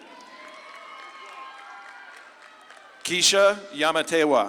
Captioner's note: audience claps and cheers